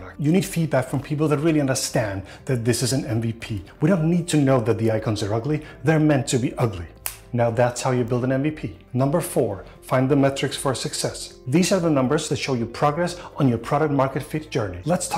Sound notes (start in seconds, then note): 6.9 fingers snap